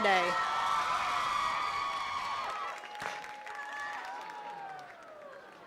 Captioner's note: attendees cheering and clapping